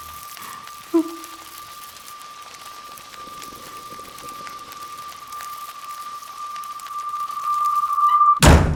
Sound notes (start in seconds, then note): 0.5 Stephanie gasps